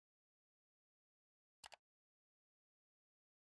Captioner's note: mouse click